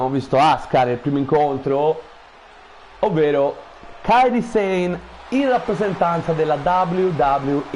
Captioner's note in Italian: Applauso